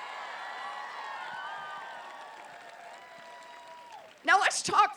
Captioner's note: applause